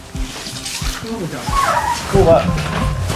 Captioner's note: dog yelping